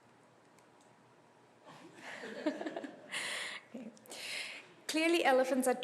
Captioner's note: laughter